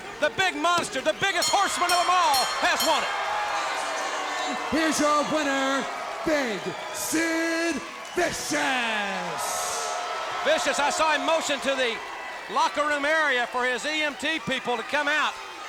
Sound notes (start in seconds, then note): 2.9 bell clanging; 2.9 crowd yelling